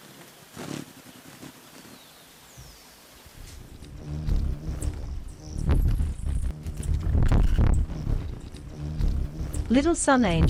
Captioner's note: buzzing; birds chirping